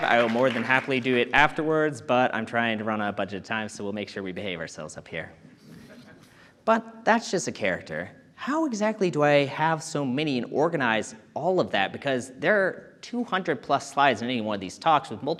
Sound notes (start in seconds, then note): 5.7 audience chuckling